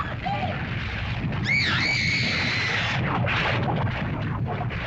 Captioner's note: lava bubbles & flows; girl screams; lava bubbles & flows